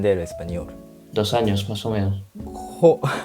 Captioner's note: Spanish